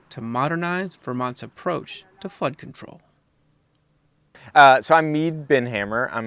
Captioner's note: none